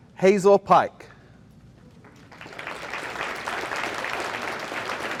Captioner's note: audience applauding